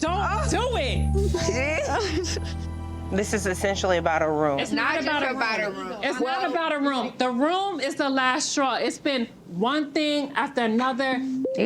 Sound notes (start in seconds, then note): 1.3 laughs